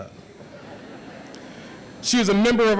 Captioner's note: audience laughs